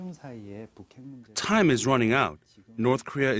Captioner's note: Korean